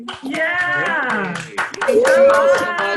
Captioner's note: crowd applauding